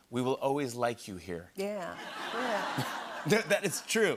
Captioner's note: laughter